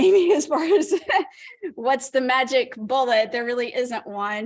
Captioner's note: laughter